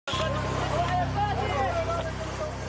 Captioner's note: shouting